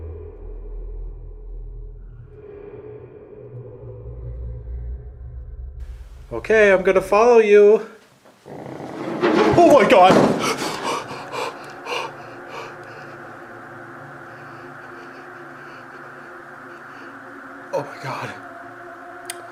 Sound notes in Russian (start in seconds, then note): 5.1 стол двигается